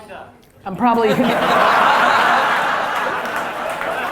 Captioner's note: audience laughter